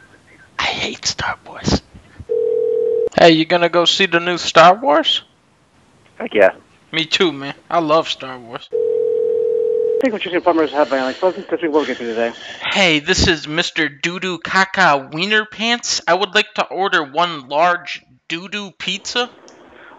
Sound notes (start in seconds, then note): 0.8 whispering; 2.3 ringing; 8.7 ringing